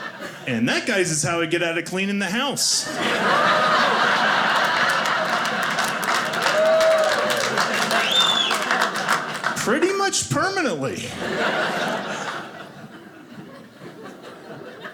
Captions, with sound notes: And that guys is how I get out of cleaning the house, (audience laughing) (audience clapping ) pretty much permanently, (audience laughing)